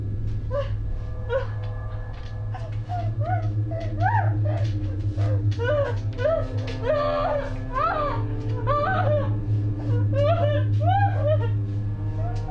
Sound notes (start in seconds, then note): 0.1 dramatic music; 3.3 Maggie screaming; 6.4 dramatic music